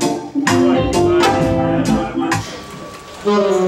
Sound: toot!

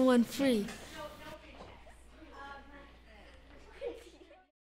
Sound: classroom chatter

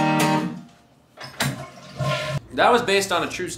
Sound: flush

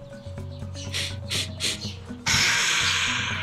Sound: sniffles

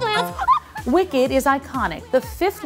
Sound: Glinda gasps

